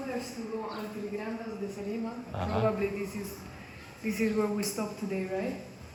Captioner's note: speaking in foreign language